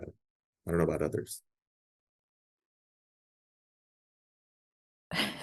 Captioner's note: chuckles